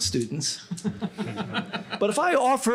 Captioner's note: laughter